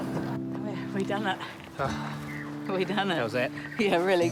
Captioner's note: puffs